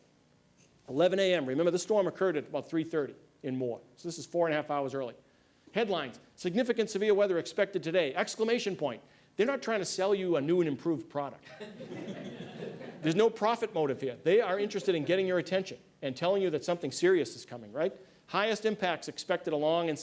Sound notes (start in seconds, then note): 14.9 laughter